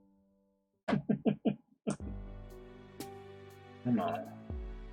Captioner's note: chuckles